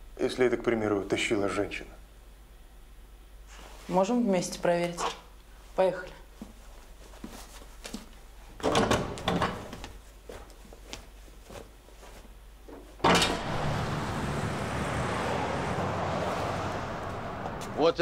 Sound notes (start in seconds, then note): 8.5 doors opening and closing; 13.0 street noises